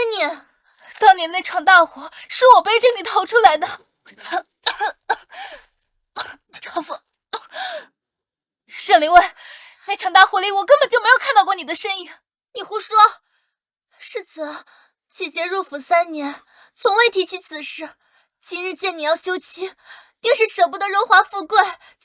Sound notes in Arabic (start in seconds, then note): 4.6 سعال، سعال، سعال، سعال، سعال